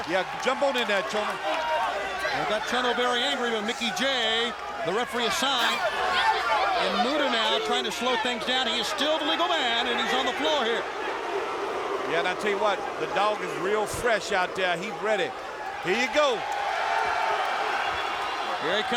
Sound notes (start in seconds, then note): 6.4 crowd cheering; 16.9 crowd cheering